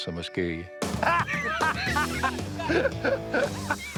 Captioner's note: laughter